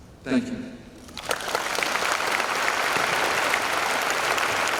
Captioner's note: applause